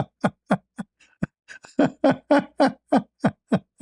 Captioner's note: ketawa